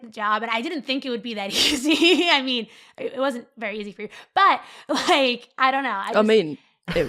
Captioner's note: laughs